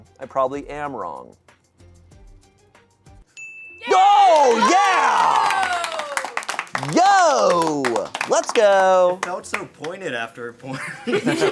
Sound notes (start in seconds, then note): 3.3 bell dings; 4.3 audience applauding